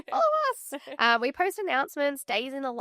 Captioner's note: chuckling